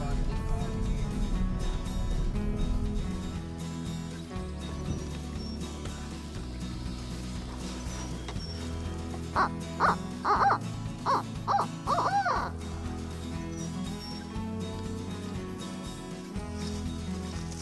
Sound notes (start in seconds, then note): 0.3 country music; 9.4 turkey call yelps; 13.3 country music